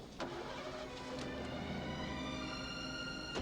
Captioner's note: engine starts